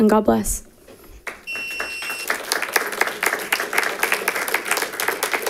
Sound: congregation claps

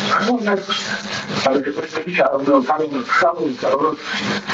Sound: stutters

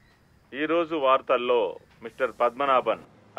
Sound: news reading in Radio

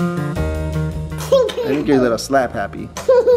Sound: laughs; laughs

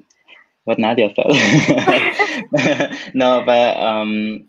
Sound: laughs

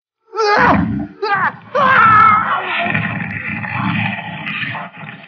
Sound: screams

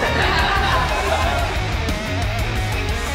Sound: audience laughing; upbeat rock music

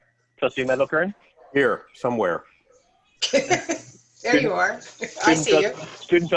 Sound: laughter

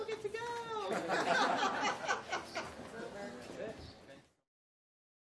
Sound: laughing

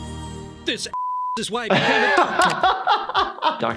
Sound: ethereal music; beep; laughs

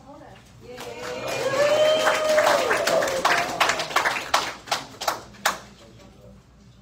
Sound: audience applauds

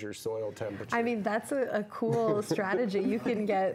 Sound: laughing

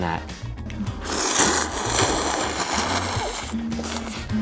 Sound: slurping

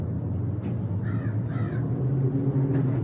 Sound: corvid crowing

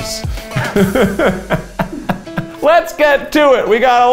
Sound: laughs

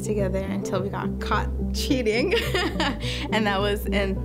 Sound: laughs

